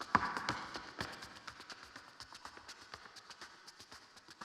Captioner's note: shoes clacking